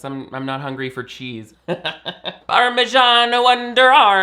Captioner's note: laughs